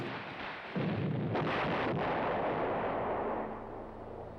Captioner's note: bombs explode